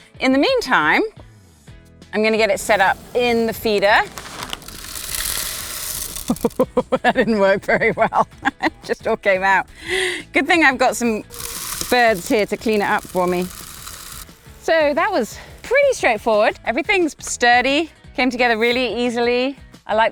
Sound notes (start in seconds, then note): 4.7 bird seed clattering; 6.5 laughs